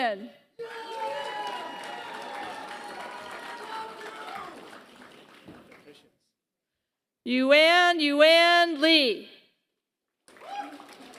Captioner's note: applause; applause